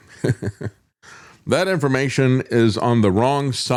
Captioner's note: laughs